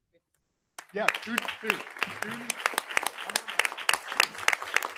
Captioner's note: audience applauding